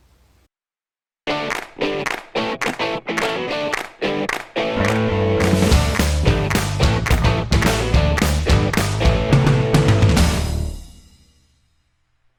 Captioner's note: claps